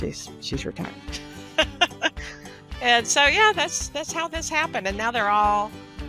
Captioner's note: laughs